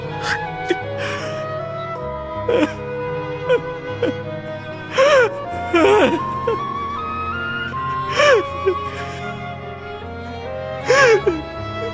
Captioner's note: sobbing